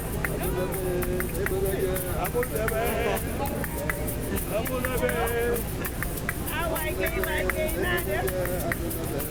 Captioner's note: speaking in foreign language